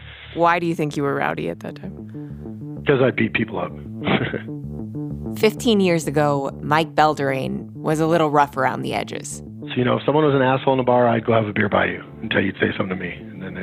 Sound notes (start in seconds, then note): 4.0 laughs